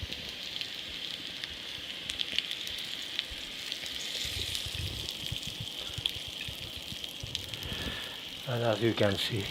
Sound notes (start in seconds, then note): 0.8 pan sizzling